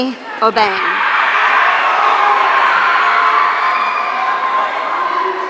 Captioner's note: audience cheering